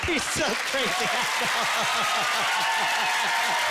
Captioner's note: laughing